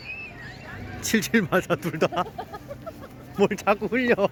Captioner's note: embarrassed laugh